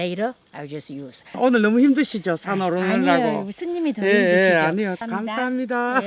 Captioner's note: speaking foreign language